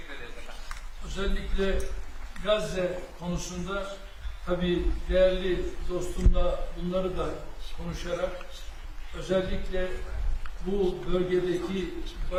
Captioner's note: speaking Turkish